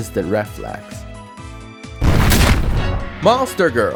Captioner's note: kicking sound